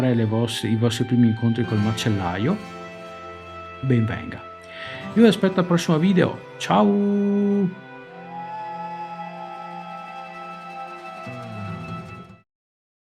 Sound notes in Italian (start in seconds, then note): 8.4 Applauso